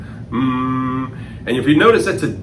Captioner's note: humming